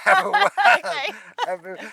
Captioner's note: laughing